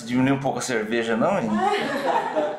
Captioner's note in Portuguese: risos